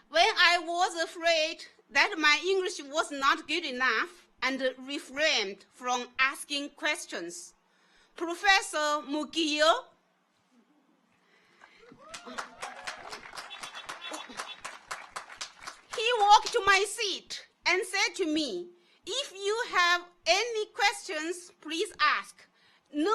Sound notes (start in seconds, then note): 11.6 audience applauds; 11.6 horn honking